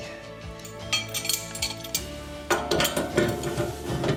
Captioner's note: metal clanking